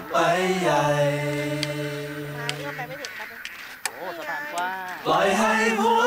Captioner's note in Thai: เสียงเคาะไม้เท้า